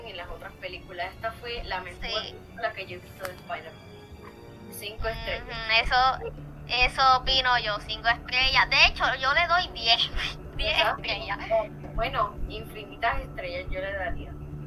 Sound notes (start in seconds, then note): 10.3 laugh